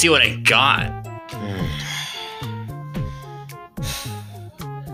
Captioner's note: the sigh of relief again